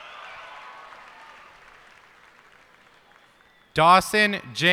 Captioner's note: cheers and applause